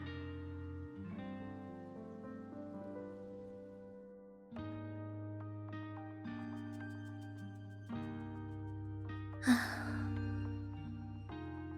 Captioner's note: sighs